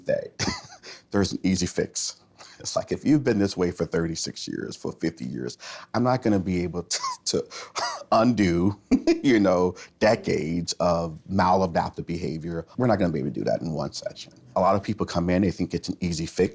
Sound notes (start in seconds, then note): 0.2 chuckles; 7.8 chuckles